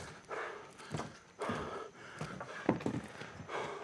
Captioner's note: breathing heavily